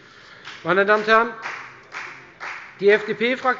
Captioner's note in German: Beifall bei der FDP